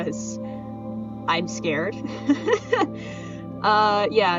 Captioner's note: laughs nervously